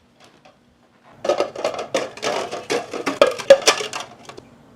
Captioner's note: stacking sounds